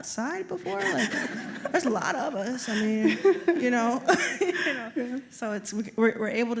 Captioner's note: laughter